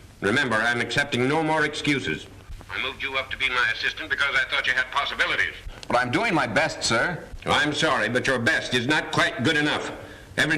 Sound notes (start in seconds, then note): none